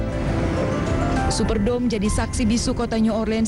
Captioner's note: non-english speech